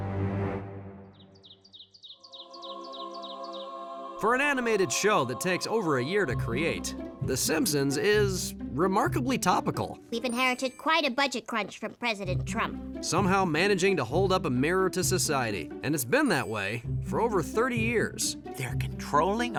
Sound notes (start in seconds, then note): 1.0 birds tweeting